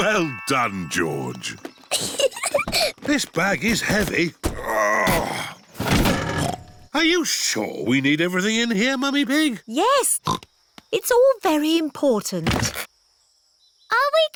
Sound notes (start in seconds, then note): 1.9 peppa giggles; 4.4 grunts; 6.7 snorts